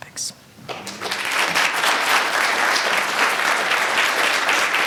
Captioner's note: audience applauding